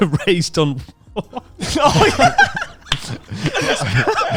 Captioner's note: laughs quickly